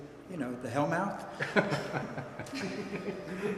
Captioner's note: laughter